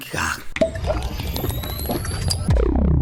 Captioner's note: water